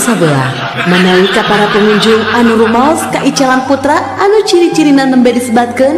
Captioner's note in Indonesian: tertawa